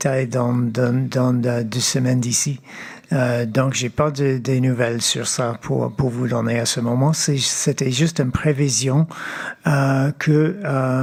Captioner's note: speaking French